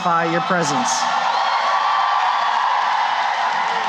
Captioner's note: cheering and applause